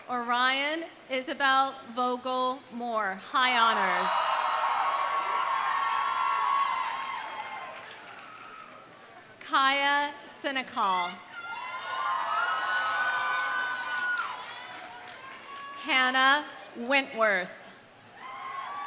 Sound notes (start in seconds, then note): 3.8 audience cheering; 4.1 audience applauding; 11.4 audience cheering; 11.5 audience applauding